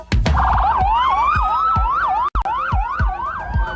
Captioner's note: sirens whining